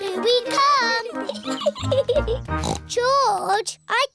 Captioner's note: giggles; snorts